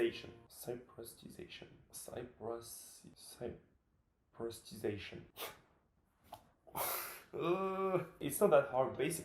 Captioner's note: struggling to pronounce it